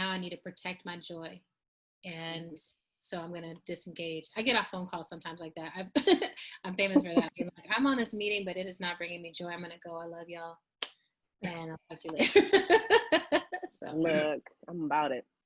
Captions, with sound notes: I need to protect my joy and so I'm gonna disengage. I get off phone calls sometimes like that, (chuckles) I'm famous for that where I be like, I'm on this meeting but it is not bringing me joy, I'm gonna go, I love y'all. And I'll catch you later. (laughs) - So look, I'm about it.